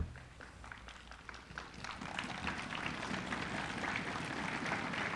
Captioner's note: applause